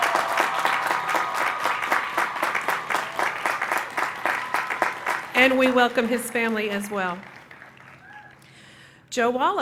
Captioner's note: applause